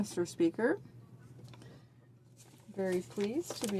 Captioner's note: speaking in french